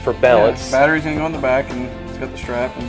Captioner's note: voiceover